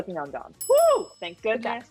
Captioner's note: bells ring